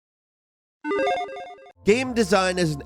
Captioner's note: video game dinging